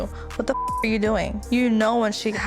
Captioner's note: beep